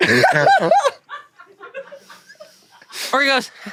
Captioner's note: laughs